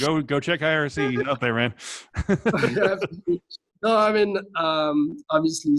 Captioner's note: laughing